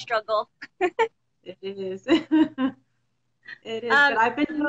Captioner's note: laughs